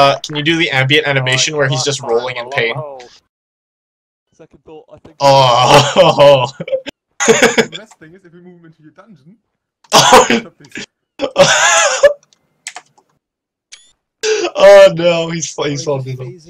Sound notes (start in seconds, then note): 5.2 orgasmic moans; 7.0 chuckle; 11.3 laughter